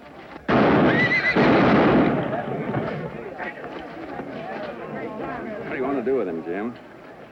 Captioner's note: horse whinnies